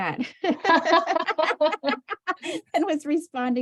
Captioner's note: laughter